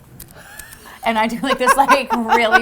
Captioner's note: laughs